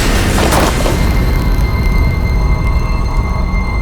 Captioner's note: gun firing; soft dramatic music